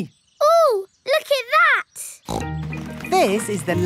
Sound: snorts

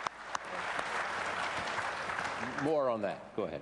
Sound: applause

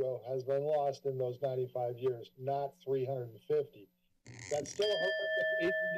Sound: timer bell rings

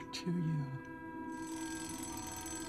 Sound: alarm clock ringing

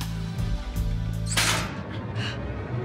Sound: slam; dark music

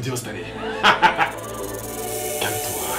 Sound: rattlesnake noise

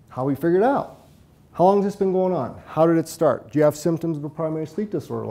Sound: none

